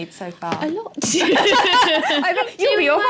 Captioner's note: laughing